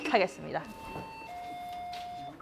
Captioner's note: ding Dong